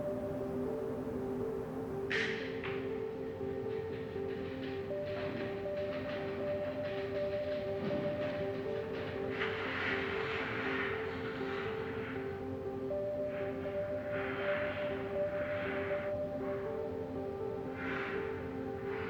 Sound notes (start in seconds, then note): 1.5 creaking and sliding